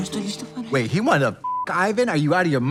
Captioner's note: beep